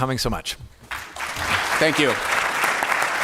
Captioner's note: applause